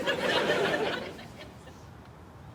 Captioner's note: laughter